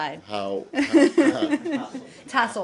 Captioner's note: laughter